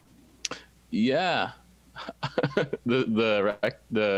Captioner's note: laughs